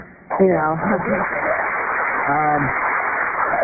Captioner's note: applause